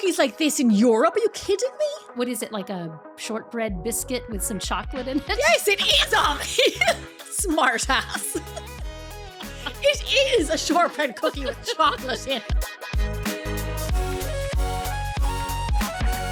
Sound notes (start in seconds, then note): 5.2 laughing; 13.2 upbeat music